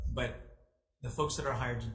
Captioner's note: none